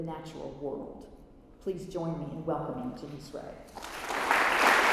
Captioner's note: applause